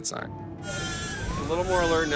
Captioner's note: crying